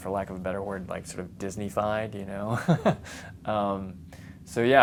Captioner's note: laughs